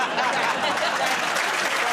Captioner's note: laughter